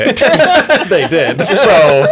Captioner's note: laughter